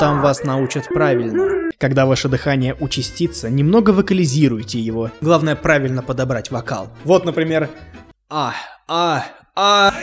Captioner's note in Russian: типа стон